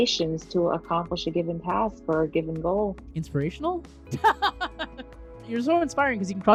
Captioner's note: laugh out loud